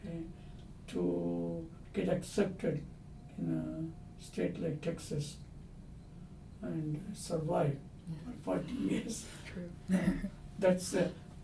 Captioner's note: laughs